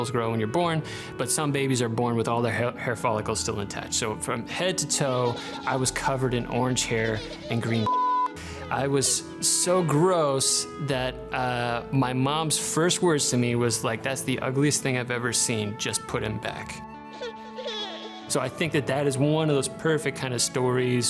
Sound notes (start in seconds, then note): 7.8 beeping; 17.0 baby crying